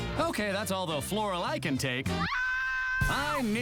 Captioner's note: screams